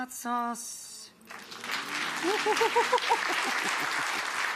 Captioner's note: applause